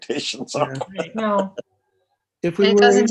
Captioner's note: laughs